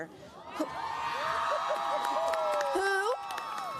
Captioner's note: cheers, applause